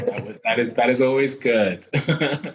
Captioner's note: laughing